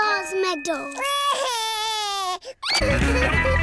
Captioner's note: cries